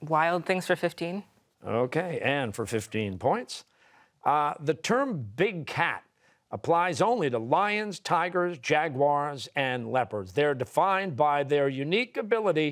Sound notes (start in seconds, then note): none